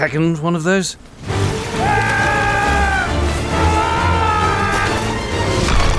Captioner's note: jack yells